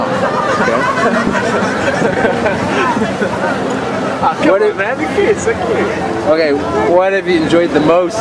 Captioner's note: laughing